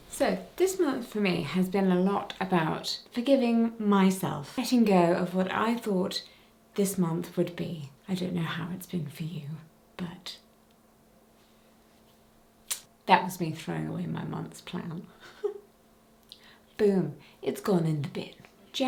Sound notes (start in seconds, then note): 12.7 clicking tongue; 15.2 chuckling